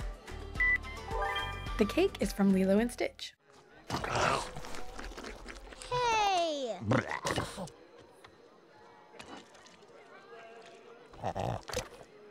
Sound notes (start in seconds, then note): 3.9 chomp